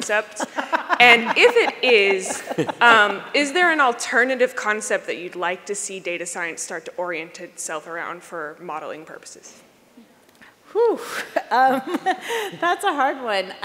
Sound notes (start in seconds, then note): 10.4 chuckles